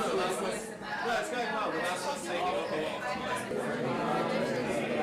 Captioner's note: talking